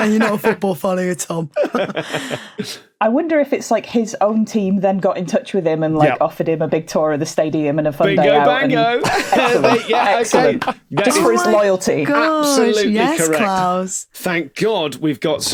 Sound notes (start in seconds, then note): 0.0 laughs; 1.5 laughter trails off; 8.1 laughs